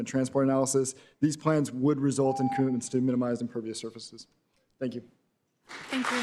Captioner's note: beep